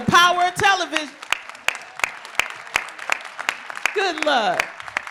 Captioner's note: applause